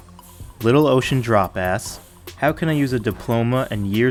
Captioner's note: voiceover